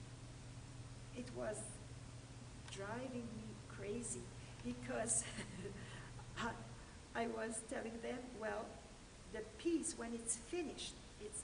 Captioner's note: laughter